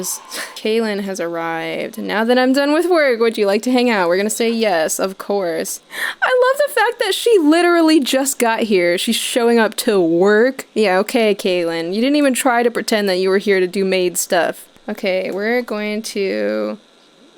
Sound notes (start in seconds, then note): none